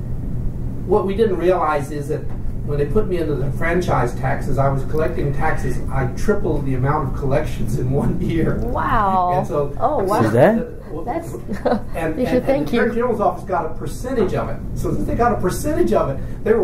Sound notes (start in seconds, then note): 8.1 laughs